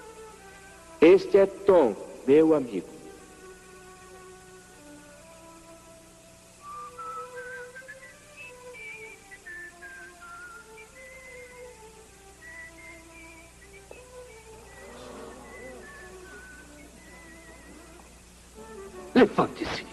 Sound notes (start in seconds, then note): 6.6 whistling; 12.7 groaning